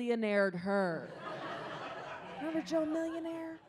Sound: audience laughs

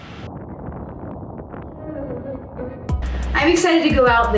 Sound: wind blowing

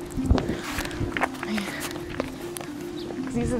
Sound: sigh

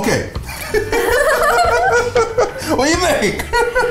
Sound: laughing

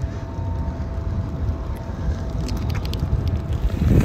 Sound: sirens

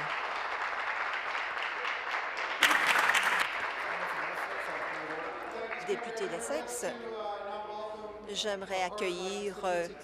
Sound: applause

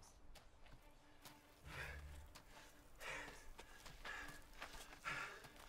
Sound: panting

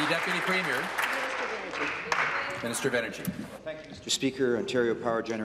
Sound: applause

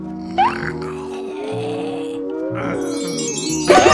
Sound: Mr. JB snoring; uncontrollable laughter

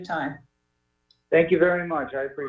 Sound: distortion

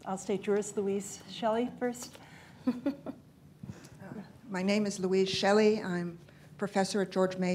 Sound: laughs

